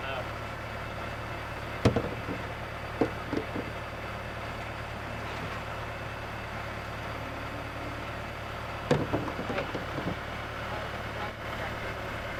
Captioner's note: sound of tractor stalling and bins fitting into place